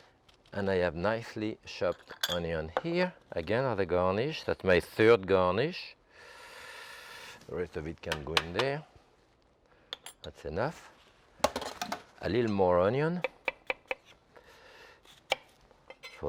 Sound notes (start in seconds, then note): 11.0 strainer clunking; 13.2 knife tapping